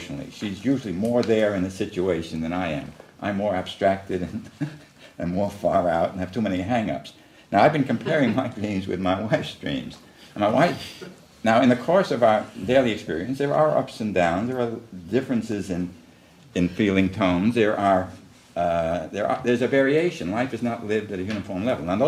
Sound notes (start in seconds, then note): 7.9 laughs